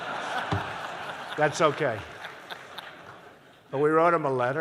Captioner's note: laughter